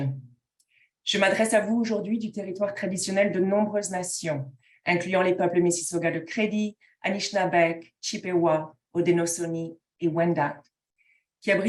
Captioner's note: speaking in French